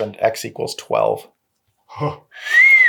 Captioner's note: whistles